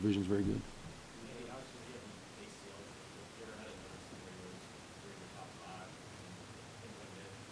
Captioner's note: voiceover